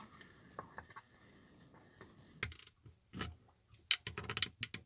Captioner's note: light scraping